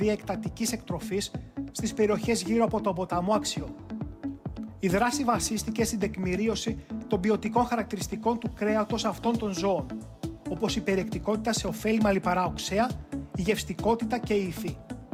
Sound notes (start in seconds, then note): none